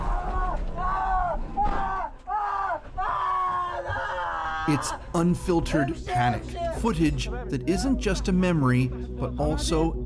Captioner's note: screaming